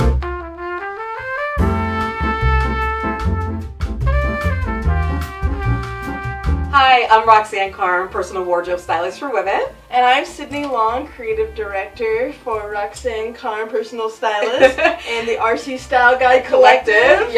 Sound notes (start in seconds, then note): 0.1 mellow music; 14.3 laughs